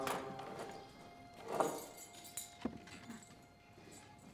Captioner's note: keys jangle